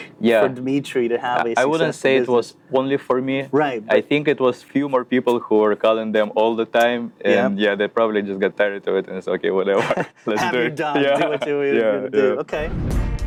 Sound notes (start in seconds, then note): 9.7 both chuckling